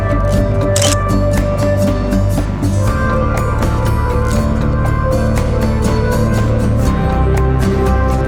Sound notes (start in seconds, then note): 0.6 photo Click